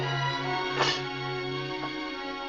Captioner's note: tray clanks